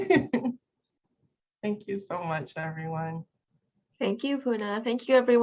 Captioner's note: laughs